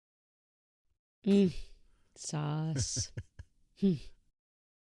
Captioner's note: chuckles